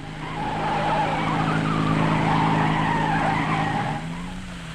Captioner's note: tires squealing